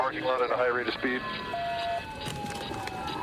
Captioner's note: sirens blaring